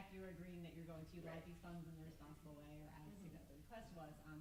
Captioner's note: stammers